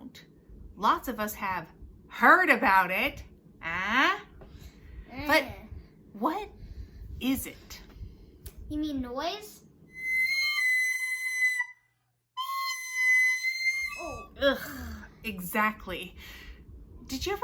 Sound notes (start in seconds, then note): 9.9 whistle plays; 13.7 groan